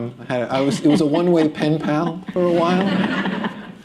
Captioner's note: laughter